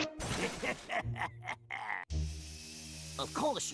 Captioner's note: laughing maliciously